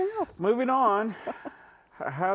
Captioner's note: giggling